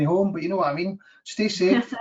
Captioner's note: laughs